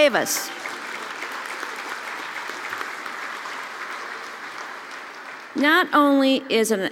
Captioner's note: applause